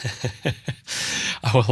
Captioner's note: laughs